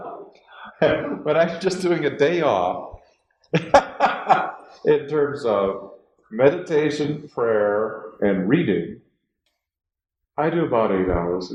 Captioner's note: laughs